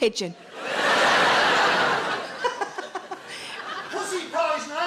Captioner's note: audience laughs